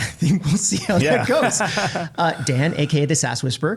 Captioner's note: both laugh